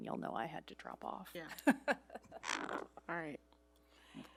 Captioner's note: laughing